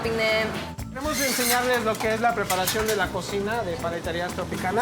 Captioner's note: speaking Spanish